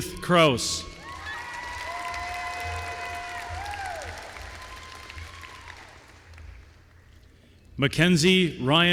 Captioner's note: applause